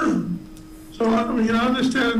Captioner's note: clears throat